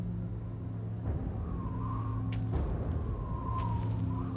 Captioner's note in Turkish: Rüzgâr esiyor